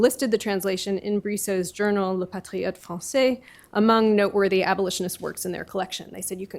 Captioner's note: french